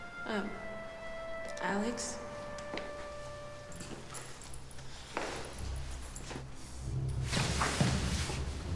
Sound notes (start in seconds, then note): 3.1 ominous music; 3.7 footsteps plodding